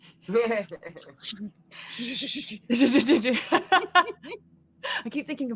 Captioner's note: imitates fire bombing